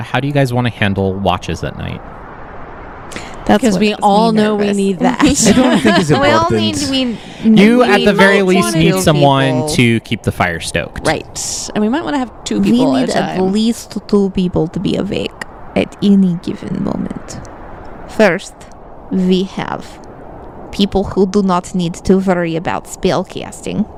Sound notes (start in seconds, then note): 4.9 laughs